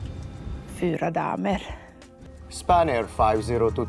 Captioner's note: speaking foreign language